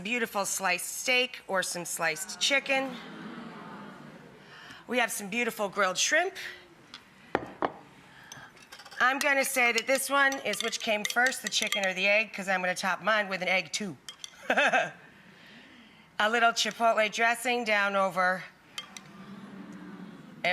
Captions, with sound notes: We have some beautiful sliced steak or some sliced chicken. We have some beautiful grilled shrimp. I'm gonna say to this one is which came first, the chicken or the egg because I'm gonna top mine with an egg too. (chuckling) A little chipotle dressing down over everybody.